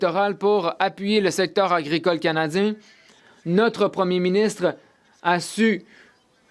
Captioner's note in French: voix de l'interprète